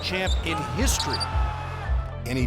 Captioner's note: yelling